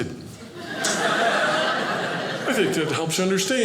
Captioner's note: audience laughing